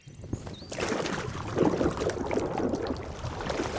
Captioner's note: water sloshing